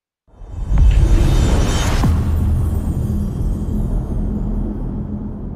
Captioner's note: dramatic sound